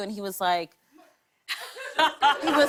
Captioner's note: laughter